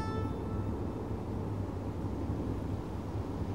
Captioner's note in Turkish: Rüzgâr esiyor